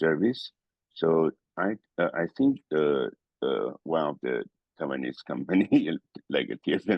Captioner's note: laugh